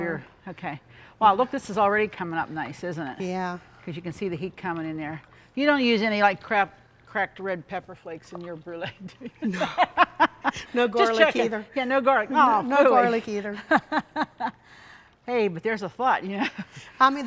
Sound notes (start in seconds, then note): 9.3 laughing happily; 13.5 laughing amusingly